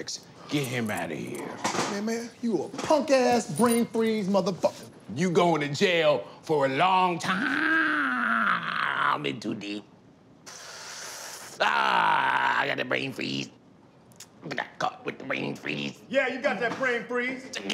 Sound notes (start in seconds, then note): 7.3 groans; 10.4 inhales